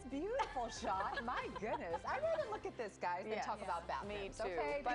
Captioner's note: laughter